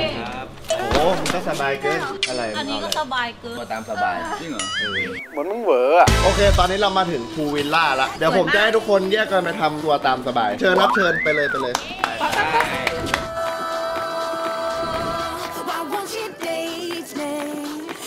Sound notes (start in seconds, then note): 11.6 applauding; 13.5 joyful music playing